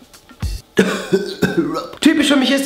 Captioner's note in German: hustet